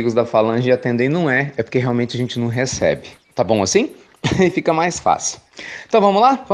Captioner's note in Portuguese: Risos